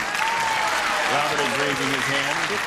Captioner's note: applause, cheering